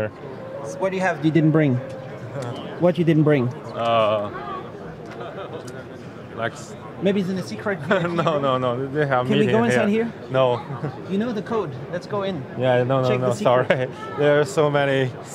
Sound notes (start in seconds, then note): 8.7 laughs; 10.8 laughs